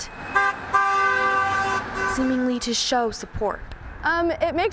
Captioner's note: car horn sounds